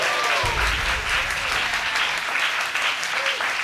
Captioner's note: audience applauds